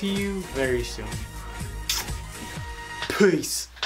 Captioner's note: smooch